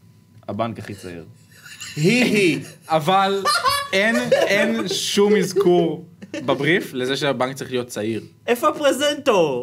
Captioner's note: laughs